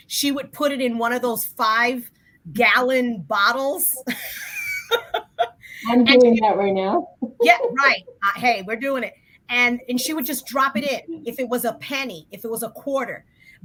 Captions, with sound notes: she would put it in one of those five-gallon bottles. [laughs] -I'm doing that right now. -Yes, right. Hey, we're doing it. She would just drop it in. If it was a penny, if it was a quarter.